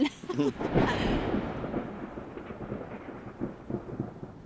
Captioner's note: thunder cracks